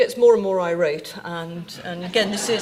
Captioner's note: audience laughing